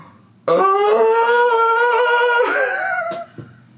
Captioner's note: howls